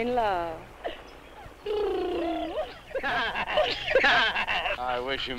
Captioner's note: Pete and Rosina purring and laughing